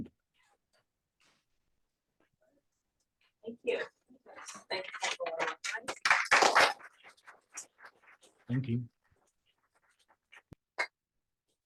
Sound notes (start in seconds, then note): 4.6 applause